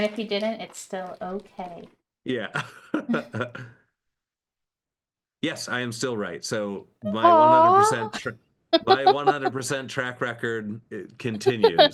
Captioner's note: laughs